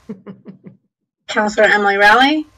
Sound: laughs

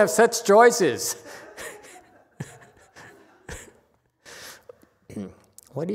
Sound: laughs, audience laughs

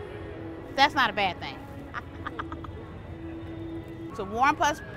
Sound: laughs

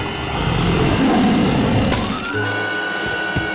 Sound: glass breaking

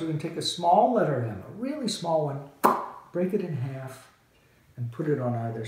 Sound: lip smacking

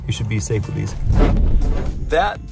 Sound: scary sound

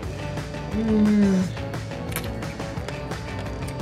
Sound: moaning

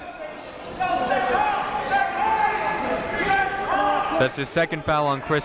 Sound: crowd talking; coaches yelling

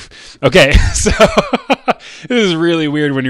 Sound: laughs

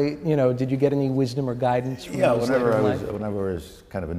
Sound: yiddish

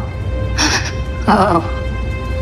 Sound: gasp

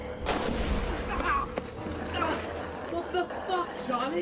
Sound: gunshots booming

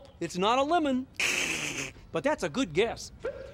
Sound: soft laugh

